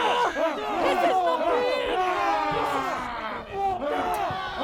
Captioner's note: loud yells